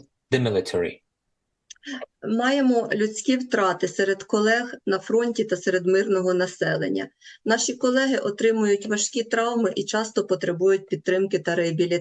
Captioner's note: foreign language